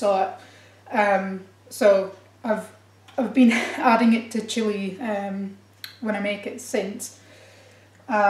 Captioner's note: laughs for no reason